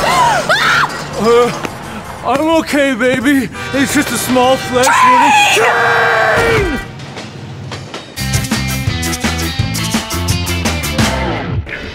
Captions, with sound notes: *gasp then SCREAMS* *moans* I'm okay, baby, it's just a small flesh wou- TRAIN!!! TRAIIIIN!!!!! *Train track noises*